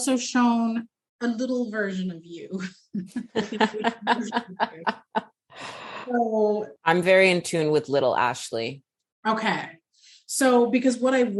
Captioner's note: laughter